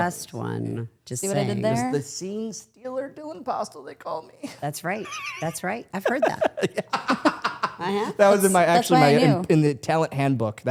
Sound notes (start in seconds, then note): 6.0 laughs